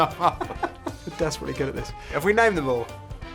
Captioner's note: both laughing